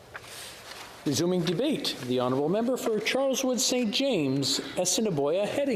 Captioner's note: speaking French